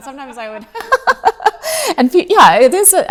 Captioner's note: both laughing